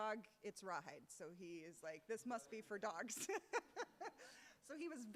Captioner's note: laughs